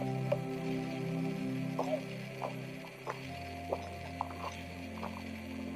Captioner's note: gentle music continues; tourists chattering